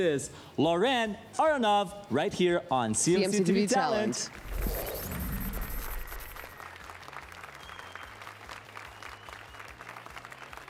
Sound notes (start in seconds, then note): 4.5 applause and cheers